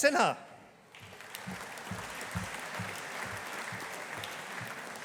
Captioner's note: audience applauding